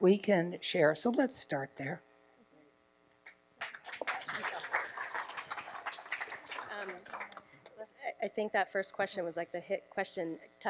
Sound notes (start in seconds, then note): 3.6 applause